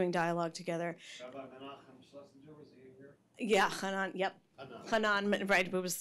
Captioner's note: speaking in foreign language